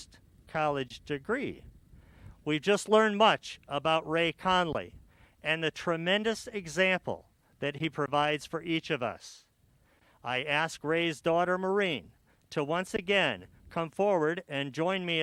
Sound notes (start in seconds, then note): none